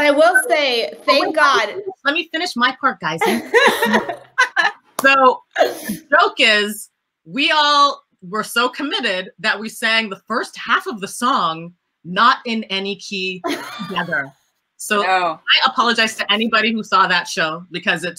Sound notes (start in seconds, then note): 3.2 laughter